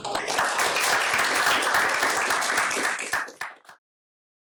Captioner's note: applause